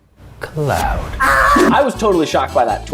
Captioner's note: Ned screaming